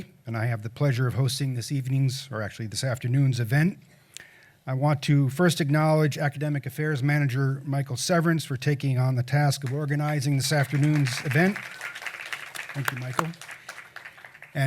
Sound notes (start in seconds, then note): 11.9 applause